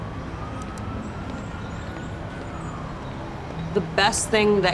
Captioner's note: siren sounding in distance